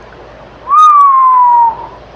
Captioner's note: whistles